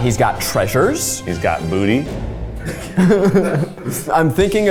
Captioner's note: laughs